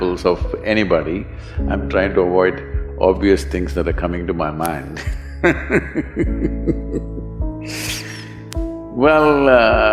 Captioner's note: laughs